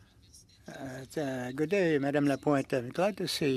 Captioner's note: speaking French